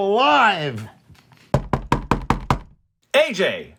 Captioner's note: knocks on door